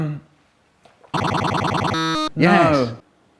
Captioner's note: glitching & stuttering